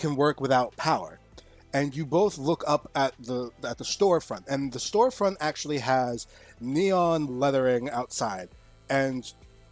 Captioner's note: neon Sign Buzz